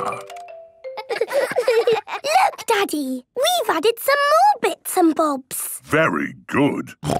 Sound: laughter

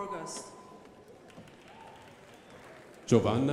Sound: crowd applauding

